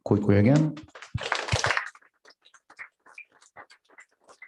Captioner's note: applause